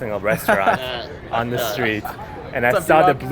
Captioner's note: laughs